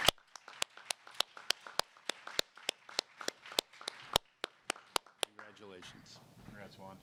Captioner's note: applause